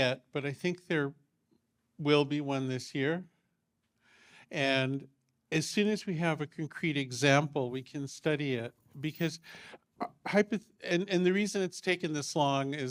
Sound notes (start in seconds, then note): none